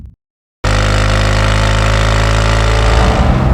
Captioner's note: exhaust sound; engine's rpm grows